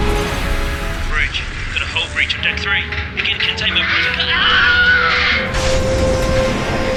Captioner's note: intercom